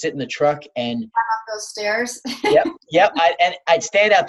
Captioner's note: laughs